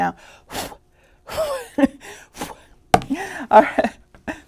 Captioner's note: blowing and chuckling